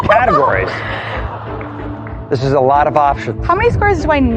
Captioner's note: laughing